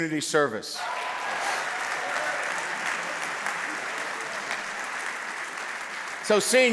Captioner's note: cheers and applause